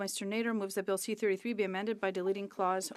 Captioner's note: speaking French